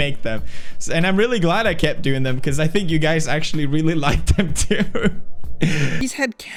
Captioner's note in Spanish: risas